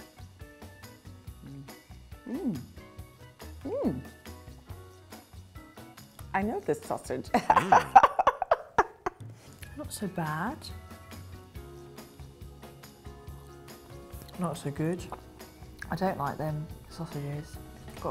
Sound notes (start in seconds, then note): 7.3 laughs